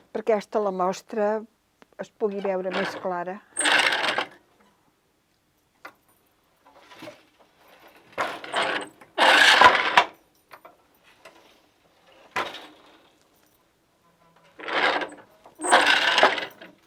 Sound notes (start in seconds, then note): 3.6 noise of shuttle moving; 9.2 noise of shuttle moving; 15.6 noise of shuttle moving